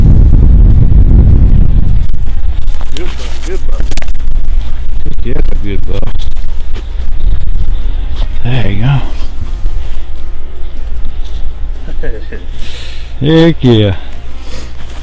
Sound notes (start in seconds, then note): 10.1 mellow Country Music; 11.8 laughter